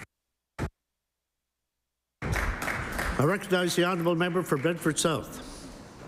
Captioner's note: applause